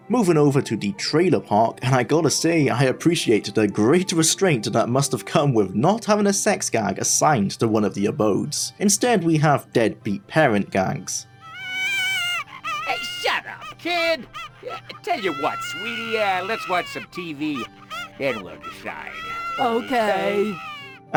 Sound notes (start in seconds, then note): 11.4 baby crying